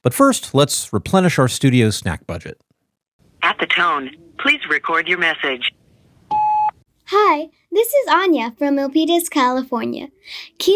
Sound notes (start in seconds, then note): 6.3 tone beeps